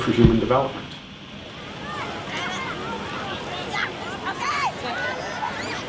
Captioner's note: kids laughing and chattering